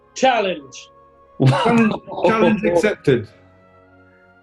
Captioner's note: laughing